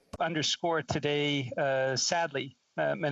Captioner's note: speaking Indigenous Language